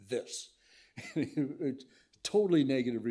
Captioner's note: laughs